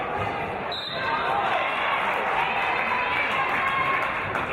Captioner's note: referee's whistle